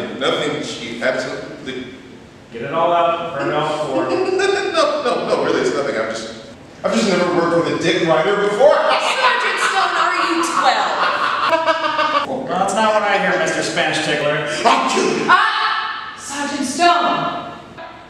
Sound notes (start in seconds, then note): 3.4 laughing; 8.9 laughter